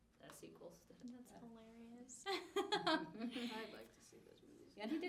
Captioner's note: laughs